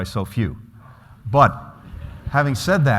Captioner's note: laughter